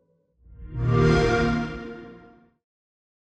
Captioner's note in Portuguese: som Xbox